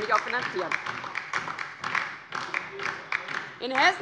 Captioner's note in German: Beifall DIE LINKE